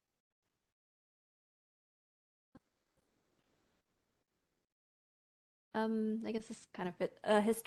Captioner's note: pause